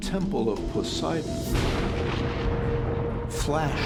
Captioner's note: thunder